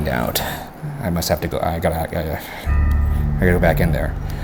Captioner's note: sighing; stammering